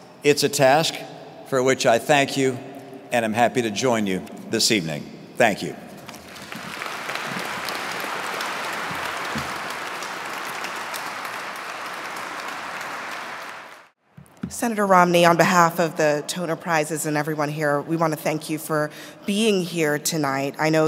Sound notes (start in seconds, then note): 6.0 audience clapping